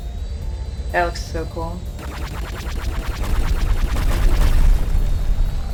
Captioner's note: lasers firing